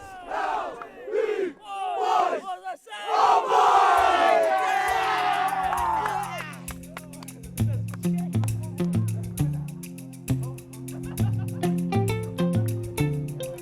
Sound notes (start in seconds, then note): 0.0 chanting; 1.5 applause